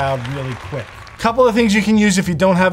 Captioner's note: crowd clapping